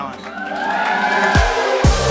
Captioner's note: crowd cheering; upbeat music